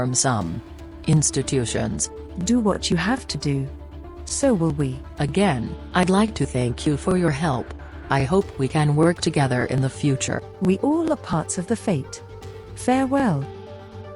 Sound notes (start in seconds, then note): none